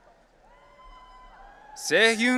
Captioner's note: audience cheering